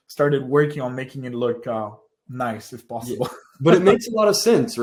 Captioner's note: laughs